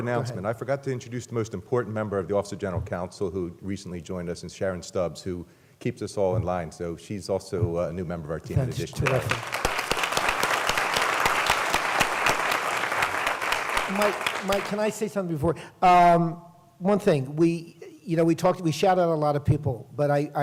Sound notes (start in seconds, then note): 8.8 applause